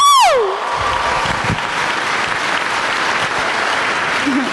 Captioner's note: applause